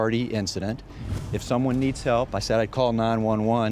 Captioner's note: whooshing